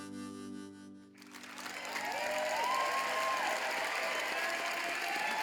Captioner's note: applause